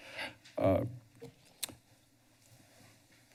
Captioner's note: tongue clicks